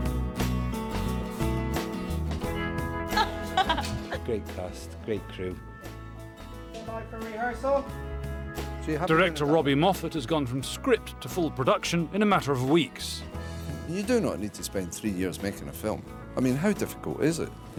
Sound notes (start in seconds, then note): 3.1 laughing